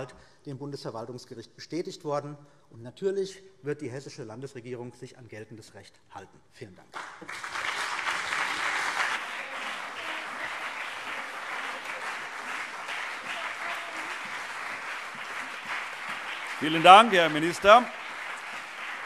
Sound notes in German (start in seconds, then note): 6.9 Beifall CDU und BÜNDNIS 90/DIE GRÜNEN